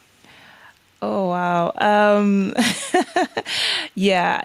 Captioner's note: chuckles